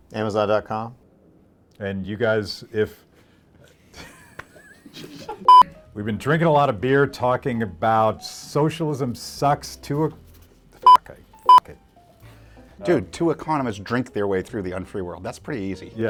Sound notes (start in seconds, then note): 3.8 laughs; 10.8 beep